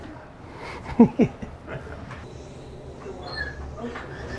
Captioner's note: laughing